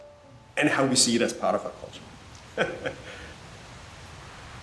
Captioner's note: laughs